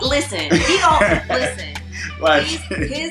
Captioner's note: laughs